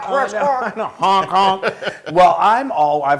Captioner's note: laugh